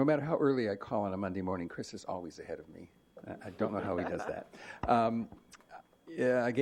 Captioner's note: laughter